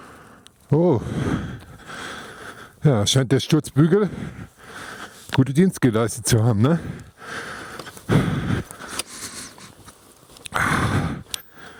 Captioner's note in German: seufzt; seufzt